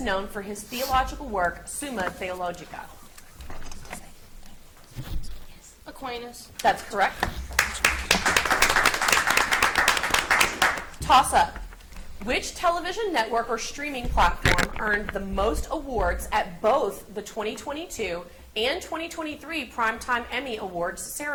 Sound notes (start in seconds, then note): 4.8 contestants whisper; 7.5 audience applauds